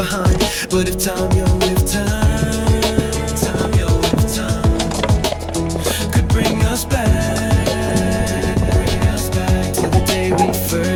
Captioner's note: echo: time, yo, if time